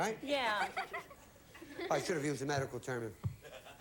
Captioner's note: audience laughing